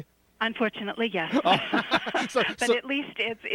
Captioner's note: laughter